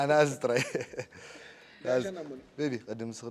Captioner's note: laughs